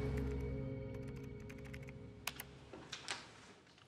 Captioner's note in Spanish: ruido al teclear